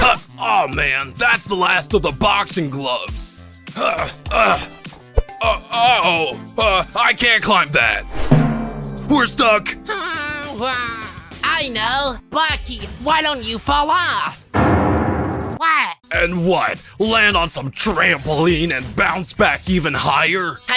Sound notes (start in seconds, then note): 3.8 grunting; 14.6 loud boom